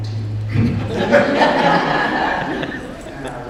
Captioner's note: audience laughs